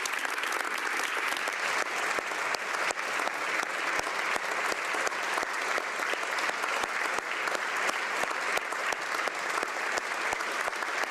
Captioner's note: applause